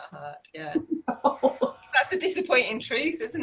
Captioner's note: laughs